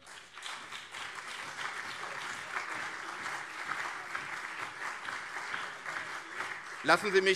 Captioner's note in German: Beifall CDU und SPD